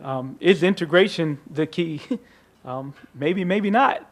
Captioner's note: chuckles